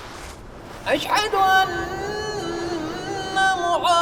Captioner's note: chanting continues